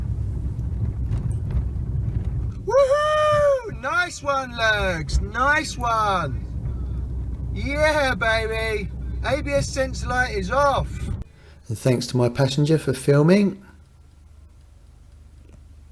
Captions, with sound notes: [Shouts] Whoa nice one Lurgs, nice one yeah baby, the ABS light is off! Tanks to my passenger for filming and